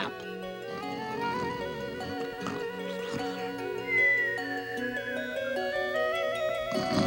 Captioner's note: snoring